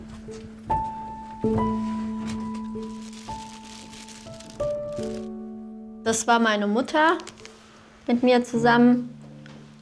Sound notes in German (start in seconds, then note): 1.6 Rascheln